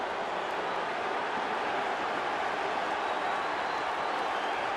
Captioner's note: cheering